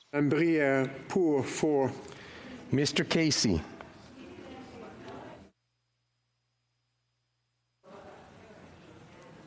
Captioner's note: speaking FRENCH